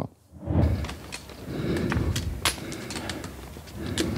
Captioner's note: clanking, heavy breathing